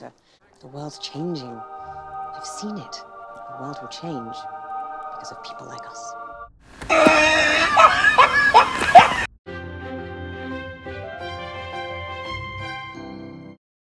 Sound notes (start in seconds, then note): 0.4 angel music; 6.9 loud laughing sound effect